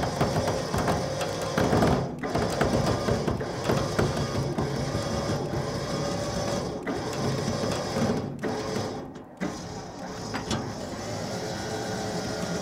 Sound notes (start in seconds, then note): 0.2 engine whirring; 2.4 thumping; 9.5 engine whirring